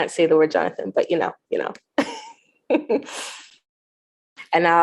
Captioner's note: chuckles